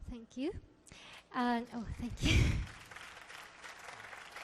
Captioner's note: audience clapping